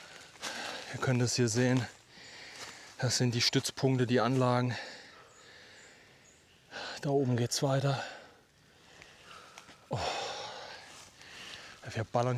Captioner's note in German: seufzt